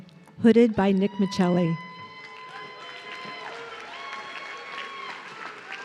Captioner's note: audience cheering